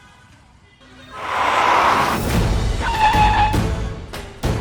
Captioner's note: car brakes screeching; dramatic music playing